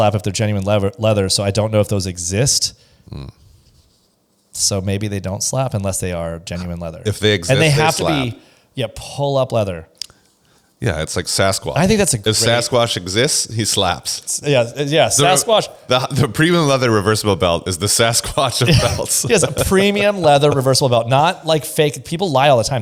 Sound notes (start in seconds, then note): 18.5 laughs